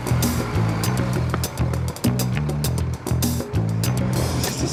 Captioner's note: bus engine roars